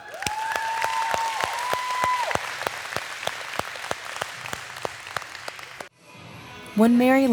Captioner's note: cheers and applause